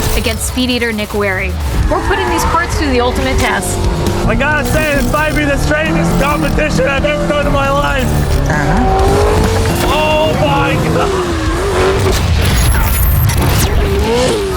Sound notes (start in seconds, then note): 12.1 mechanical whirring